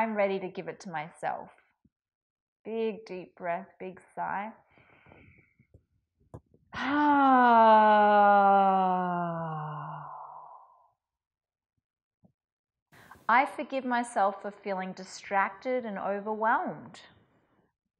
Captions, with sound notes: I'm ready to give it to myself. Big deep breath, big sigh. (sighs) I forgive myself for feeling distracted and overwhelmed.